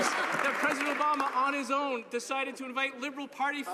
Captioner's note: some Applause